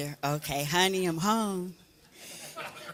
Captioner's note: laughter